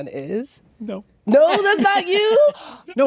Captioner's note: laughter